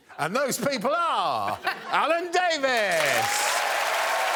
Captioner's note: applause